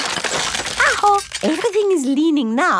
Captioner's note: house creaking